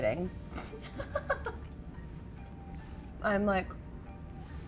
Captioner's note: laughing